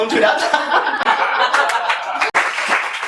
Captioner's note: laughs